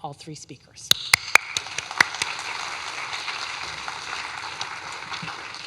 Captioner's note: audience clapping